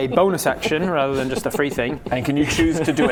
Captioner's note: happy giggles